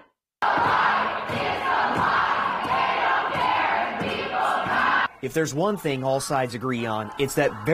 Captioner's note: nats: chanting